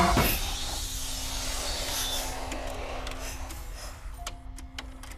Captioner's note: VCR whirring; sudden ominous music; videotape squeaking; gentle melodic music